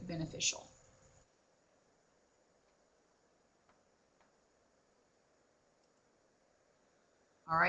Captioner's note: no sound - waiting for presenter to continue